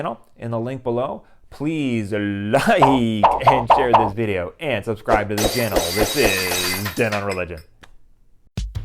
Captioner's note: glass breaking